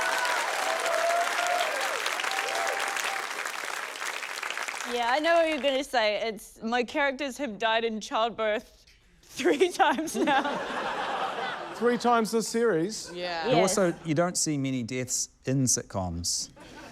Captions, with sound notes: (APPLAUSE) Yeah, I know what you're gonna say. It's― My characters have died in childbirth (LAUGHS) three times now. - Three times this series? - Yeah. - Yeah. - Also, you don't see many deaths in sitcoms.